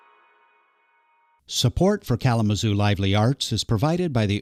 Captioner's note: voiceover